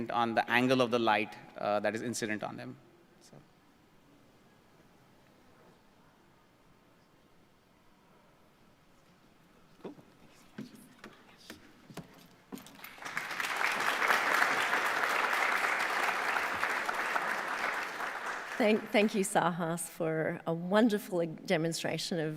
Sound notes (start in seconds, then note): 12.7 audience applauds